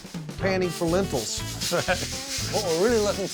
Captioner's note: rattling sound